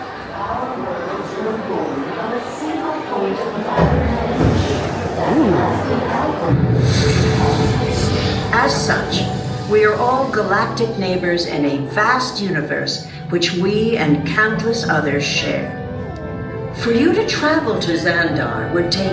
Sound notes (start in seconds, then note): 5.1 epic sound effects